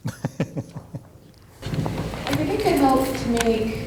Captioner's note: laughter